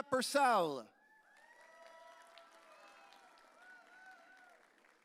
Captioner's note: audience cheering